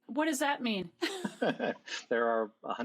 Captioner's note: both laugh